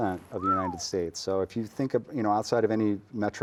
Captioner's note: whistles